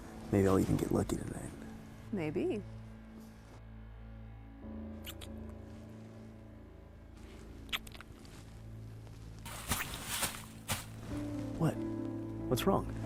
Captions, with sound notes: Maybe I'll even get lucky tonight. Maybe. (Rustling leaves) What? What's wrong?